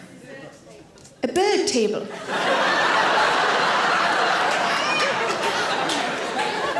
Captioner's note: audience laughing